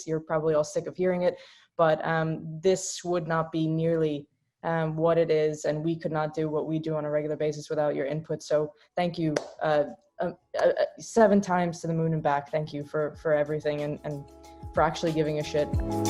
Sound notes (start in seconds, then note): 9.3 claps hands